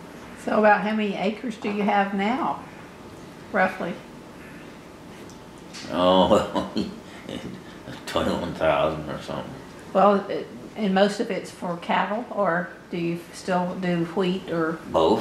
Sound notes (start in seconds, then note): 5.9 laughs